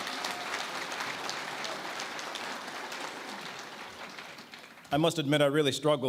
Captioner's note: applause